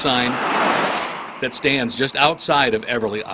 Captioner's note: traffic noise